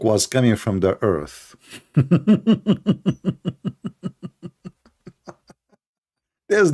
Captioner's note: Ketawa